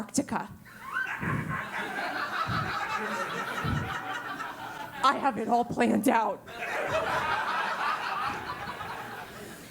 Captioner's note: laugh; laugh